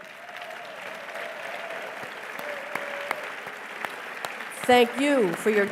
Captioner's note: applause